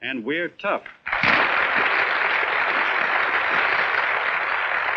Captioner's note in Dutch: applaus